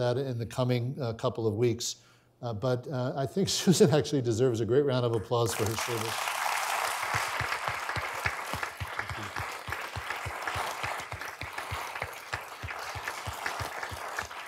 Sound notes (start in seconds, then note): 5.5 audience applauding